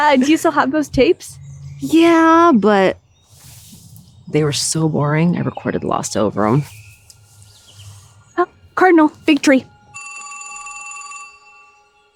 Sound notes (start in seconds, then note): 9.8 phone ringing